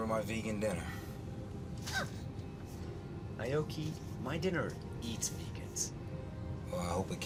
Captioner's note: chuckles